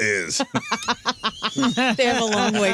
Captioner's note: laughing